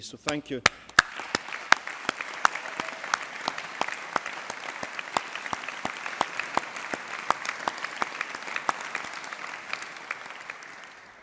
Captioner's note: applause